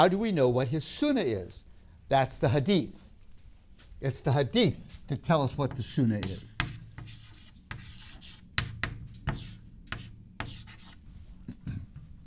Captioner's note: chalk scrapes